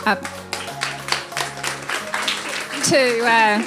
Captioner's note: audience applauding